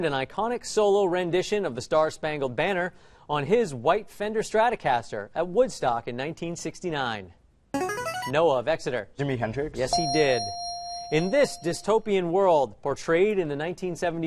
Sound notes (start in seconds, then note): 7.8 answer bell; 9.9 correct answer chime